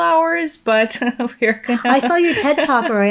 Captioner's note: chuckles